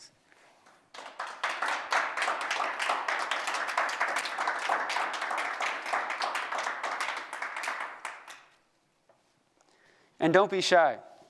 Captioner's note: applause